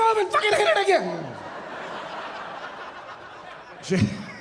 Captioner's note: audience laughing